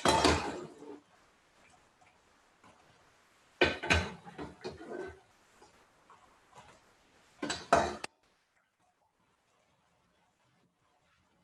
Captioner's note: silence